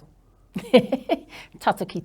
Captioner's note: laughs